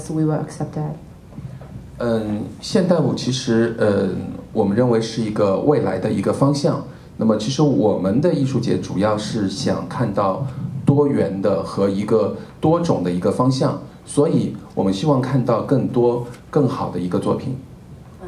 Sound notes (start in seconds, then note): 2.6 speaking in Mandarin